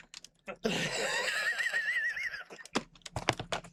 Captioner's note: wheezes